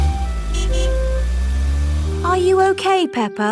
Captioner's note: horn honks